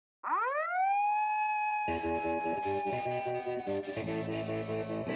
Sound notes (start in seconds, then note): 0.2 siren wailing; 1.9 slow rock music